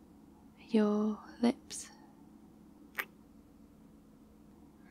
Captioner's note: kiss